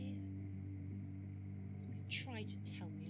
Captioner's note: ominous humming growing louder